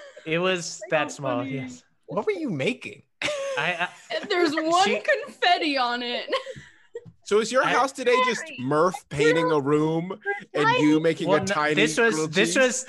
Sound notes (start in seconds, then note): 3.2 everyone laughs